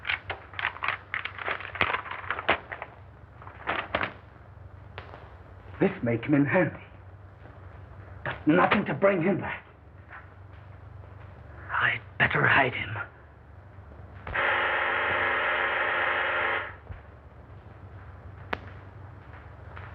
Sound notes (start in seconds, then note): 14.3 buzzer